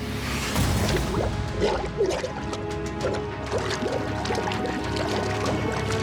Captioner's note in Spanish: ruido del agua al sumergir